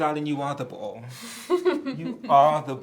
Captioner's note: Amandla chuckling